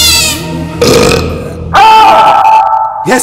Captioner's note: Burps